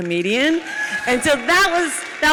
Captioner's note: audience cheers